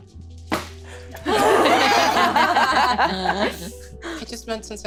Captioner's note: all laughing